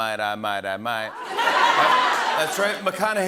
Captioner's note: laughter